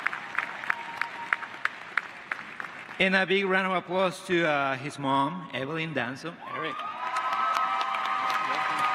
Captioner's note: applause